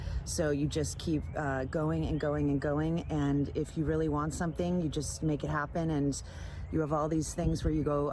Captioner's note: none